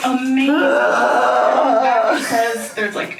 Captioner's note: groans